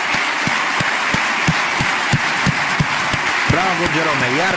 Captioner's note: applause